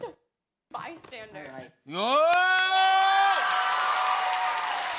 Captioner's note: cheers and applause